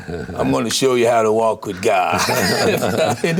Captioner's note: laughter